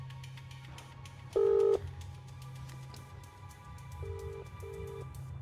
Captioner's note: cell phone ringing